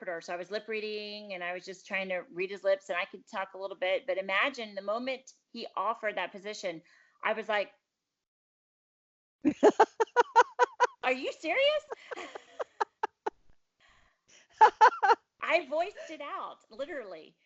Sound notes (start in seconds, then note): 9.4 laughs; 14.6 laughter